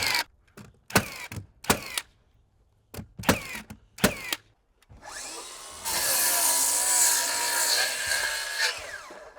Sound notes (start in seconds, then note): 4.9 saw whirring